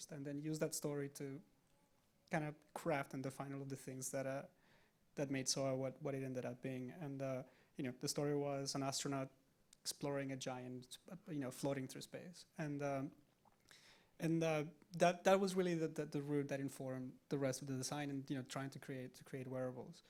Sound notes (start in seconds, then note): none